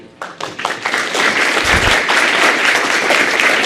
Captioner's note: applause